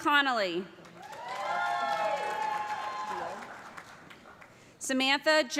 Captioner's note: cheers and applause